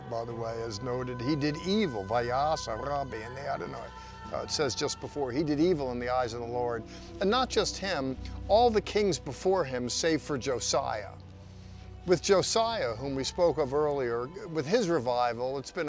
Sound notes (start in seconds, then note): 2.4 speaking in Hebrew